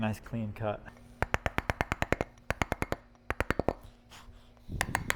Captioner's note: metal hammering